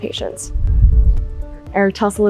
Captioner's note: air whooshing